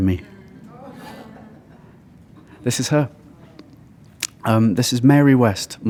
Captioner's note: chuckle